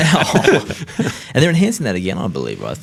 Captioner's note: all laugh